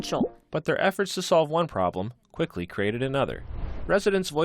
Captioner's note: voice-over